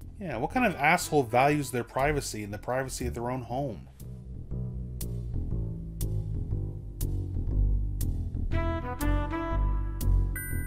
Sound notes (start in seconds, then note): none